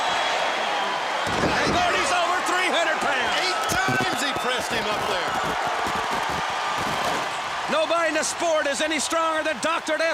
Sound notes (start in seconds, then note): 5.5 crowd cheering